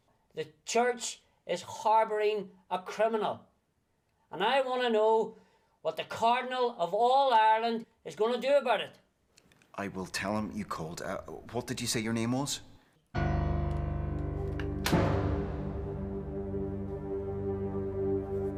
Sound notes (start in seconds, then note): 13.2 dramatic tense tones; 14.5 phone thuds